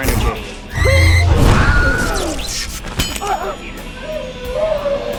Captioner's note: screaming; whimpering